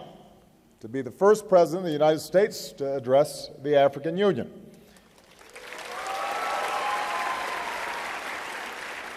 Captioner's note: applause